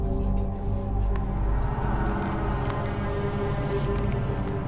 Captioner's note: whispers